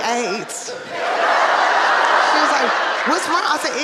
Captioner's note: audience laughing